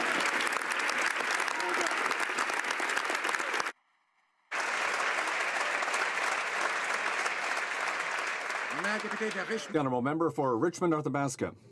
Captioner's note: some Applause